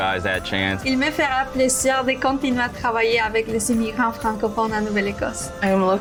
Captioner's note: speaking in foreign language